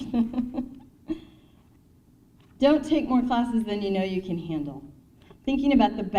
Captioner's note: laughs